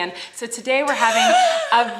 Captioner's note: laughs